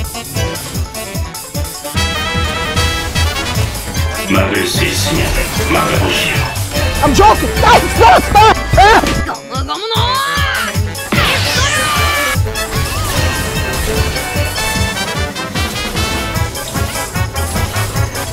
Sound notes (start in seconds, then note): 8.5 yelling